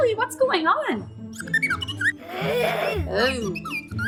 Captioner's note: chirps